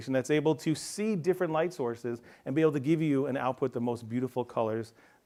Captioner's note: none